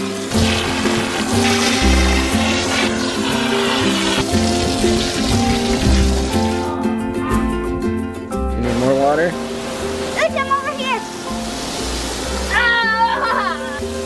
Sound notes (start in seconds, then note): 0.0 water splatters; 0.3 playful music; 7.5 kids grunt; 11.5 water fizzes; 12.5 yells; 13.9 water fizzes